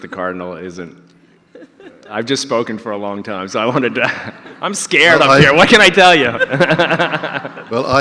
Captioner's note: audience laughter